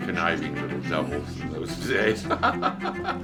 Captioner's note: laugh